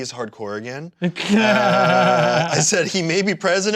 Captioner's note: laughs